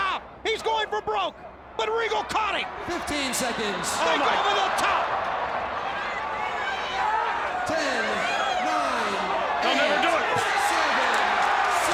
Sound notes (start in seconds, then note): 6.5 crowd chatter